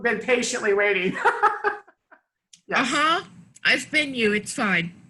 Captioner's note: laughs